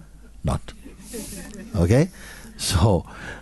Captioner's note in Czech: smích